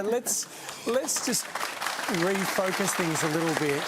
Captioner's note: applause